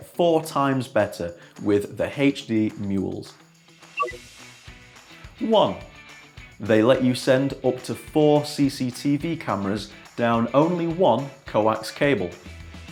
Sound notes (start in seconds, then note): 4.0 touchpad bleeps